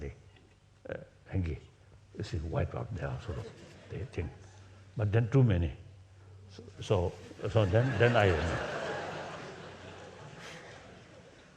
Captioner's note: laughs